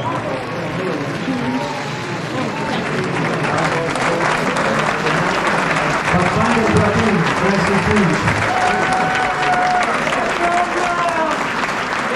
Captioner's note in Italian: Applauso